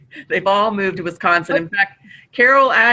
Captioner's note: chuckles